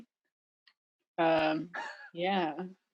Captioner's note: laughing